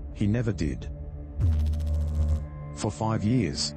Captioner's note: electrical noise